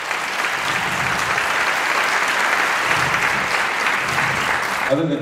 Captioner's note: applause